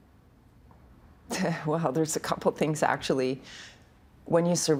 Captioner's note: chuckling